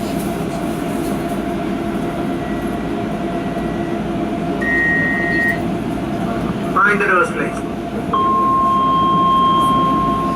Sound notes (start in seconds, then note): 6.7 train Operator Announcement